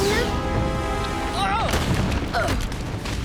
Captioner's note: groaning